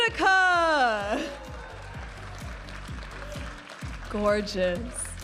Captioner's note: audience applauding and cheering